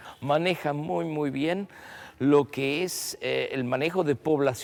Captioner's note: none